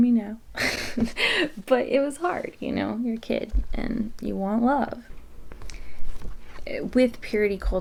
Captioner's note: laughs